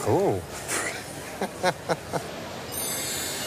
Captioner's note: chuckles